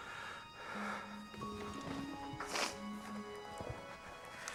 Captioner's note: breathes heavily